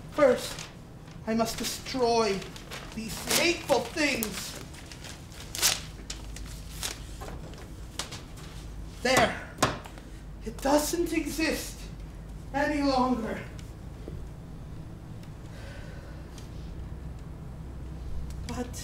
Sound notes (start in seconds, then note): none